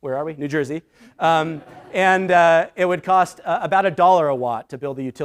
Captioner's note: laughter